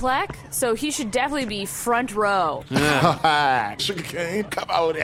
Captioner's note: laughs; grumbles